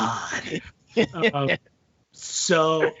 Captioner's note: laughing